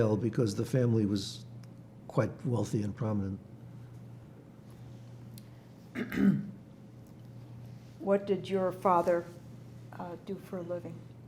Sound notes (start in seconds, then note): 5.9 clears throat